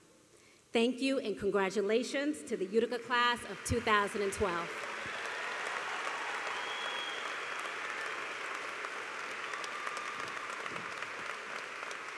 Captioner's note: applause